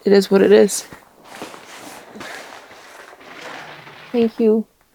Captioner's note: cloth rustling